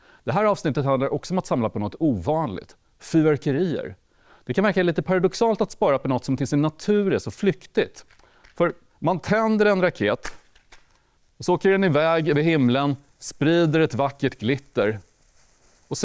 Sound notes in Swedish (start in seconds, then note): 8.0 Tändsticka tänds; 10.2 Tomtebloss fräser